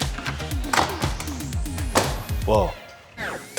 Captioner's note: door clicking; luggage clicking